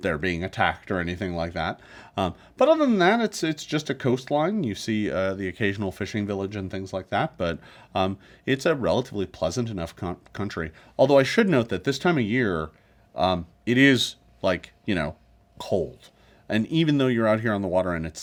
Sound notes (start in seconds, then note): none